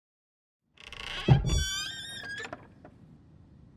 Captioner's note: lid creaks